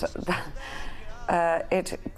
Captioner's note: chuckles